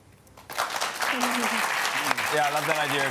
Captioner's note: applause